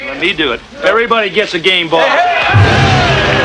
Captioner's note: all cheering